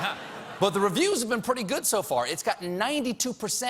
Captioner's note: laughter